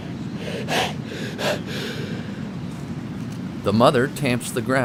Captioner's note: turtle hissing